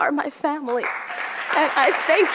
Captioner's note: audience clapping